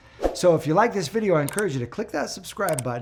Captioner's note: graphic whooshes; mouse clicks